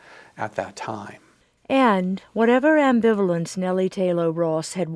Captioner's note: voiceover